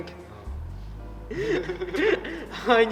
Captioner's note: laughs